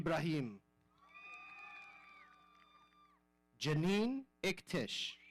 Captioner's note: audience cheering